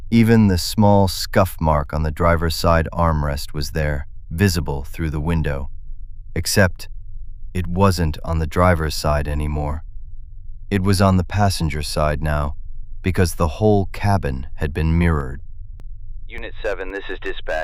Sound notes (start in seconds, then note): 16.6 radio